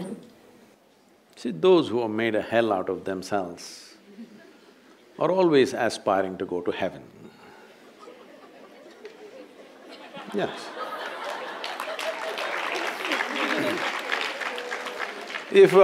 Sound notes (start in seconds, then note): 7.9 laughter; 10.8 applause